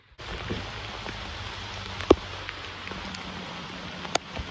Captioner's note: raining harder